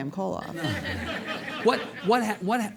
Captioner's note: audience laughing